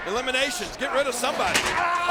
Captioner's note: steel clunking